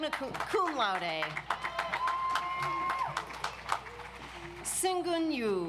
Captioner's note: audience applauds